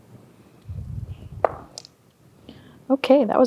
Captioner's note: dice rolling